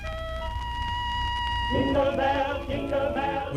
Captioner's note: horn toots